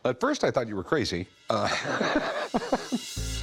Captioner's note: laughs